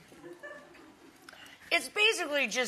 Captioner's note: audience laughs